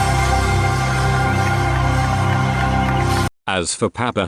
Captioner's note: beginning of a crowd cheering